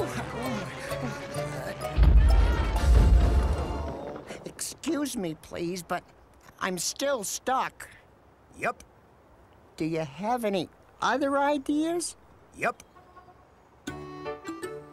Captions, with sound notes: ( crash ) Excuse me, please But I’m still stuck. Yup. Do you have any other ideas? Yup.